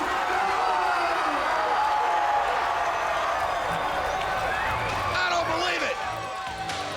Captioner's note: crowd cheering